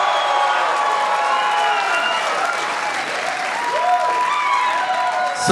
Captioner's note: audience cheering; audience applauding